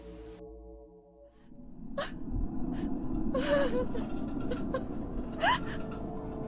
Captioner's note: painful Sobs